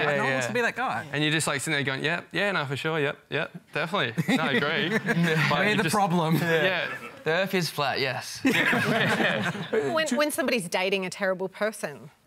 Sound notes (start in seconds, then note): 4.2 chuckles; 8.4 laughter